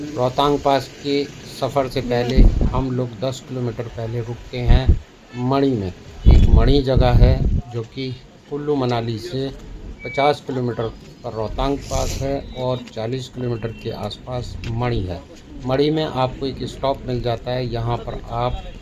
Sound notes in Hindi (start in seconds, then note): 11.6 नाक से की जाने वाली आवाज़